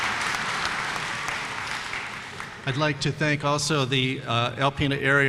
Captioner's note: applause